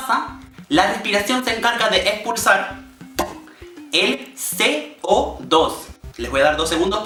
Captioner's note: pop